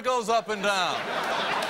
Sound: audience chuckles

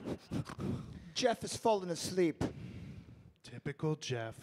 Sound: breaths deeply

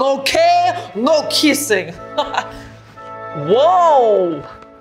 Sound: laughing

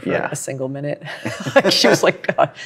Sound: laughs

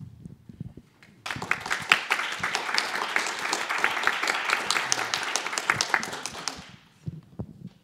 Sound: applause

